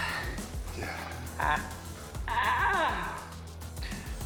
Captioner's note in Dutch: manjacally chuckles